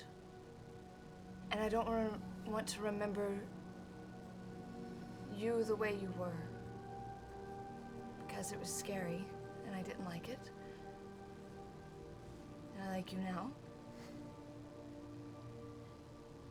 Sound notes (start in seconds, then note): none